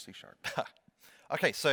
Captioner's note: chuckles